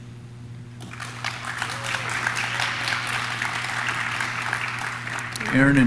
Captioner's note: audience claps; audience cheers